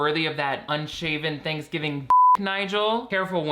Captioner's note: beeps